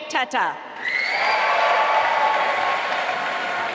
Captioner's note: applause